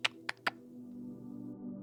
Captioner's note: clock ticking